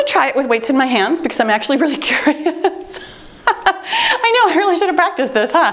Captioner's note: laughing